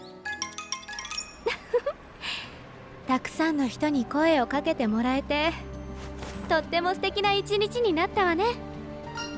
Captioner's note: laughs